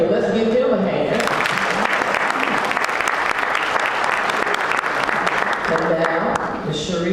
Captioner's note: applause